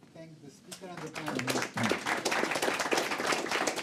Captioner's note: applause